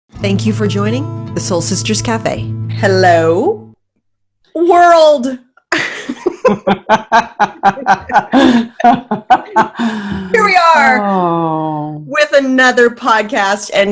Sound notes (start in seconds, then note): 5.8 laughing